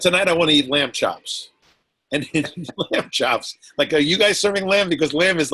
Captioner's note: laughs